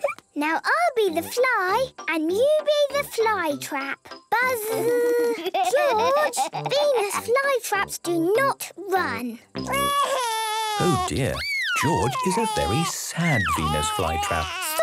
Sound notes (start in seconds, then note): 4.3 George laughing